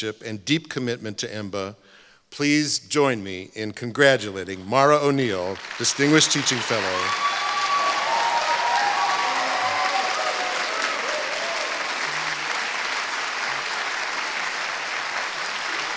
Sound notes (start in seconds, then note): 6.9 applause